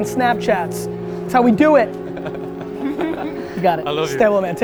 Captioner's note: group laughter